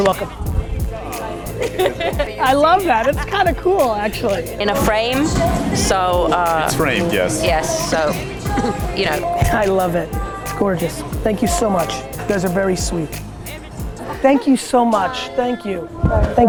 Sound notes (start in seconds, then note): 1.5 woman laughing